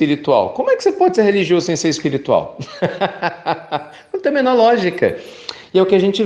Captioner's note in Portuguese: risos